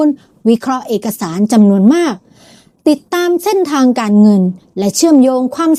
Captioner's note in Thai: เสียงสูดหายใจ